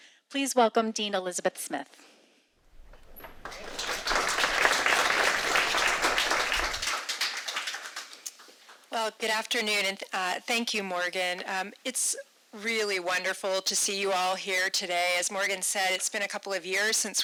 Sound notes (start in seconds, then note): 2.7 audience applauding